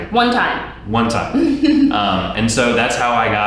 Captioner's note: laughs